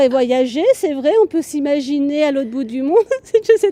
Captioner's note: laughter